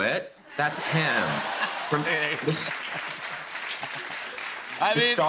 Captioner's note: laughter and applause